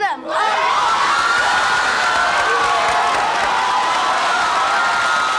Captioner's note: audience applauding